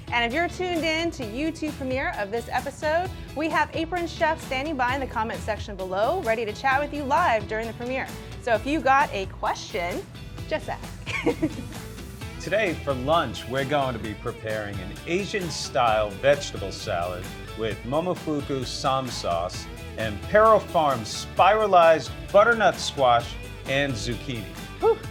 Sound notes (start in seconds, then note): 11.0 laughs